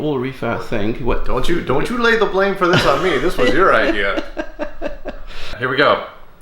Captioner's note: laughter